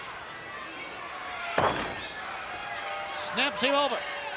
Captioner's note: steamboat thuds